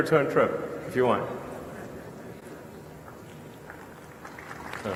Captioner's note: applause